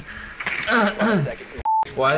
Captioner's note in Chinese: 想以咳嗽掩盖